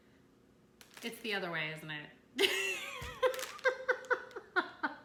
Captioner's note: laughs